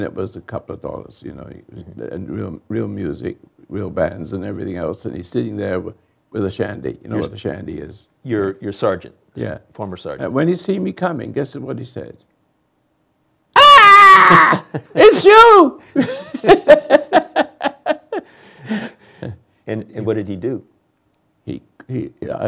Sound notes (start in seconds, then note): 16.0 chuckles